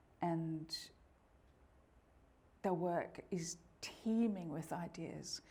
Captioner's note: none